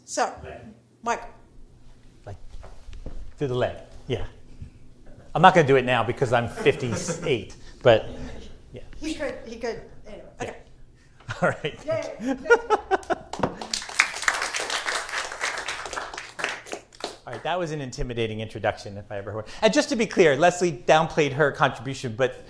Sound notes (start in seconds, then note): 11.2 laughs; 13.2 applause